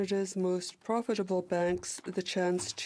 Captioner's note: speaking in french